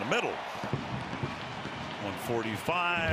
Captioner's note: firecrackers bursting